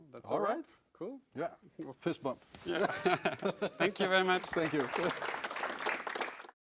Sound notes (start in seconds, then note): 2.7 laugh; 3.8 applause; 4.2 laugh